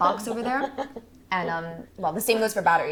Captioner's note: Maisie laughs